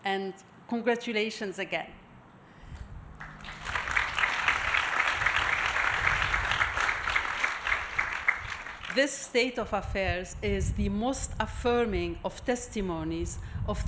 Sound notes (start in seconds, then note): 3.2 audience applauding